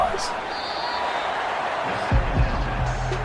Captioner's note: crowd cheering